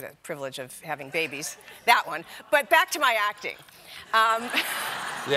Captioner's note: laughter